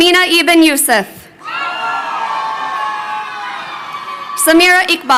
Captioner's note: crowd cheering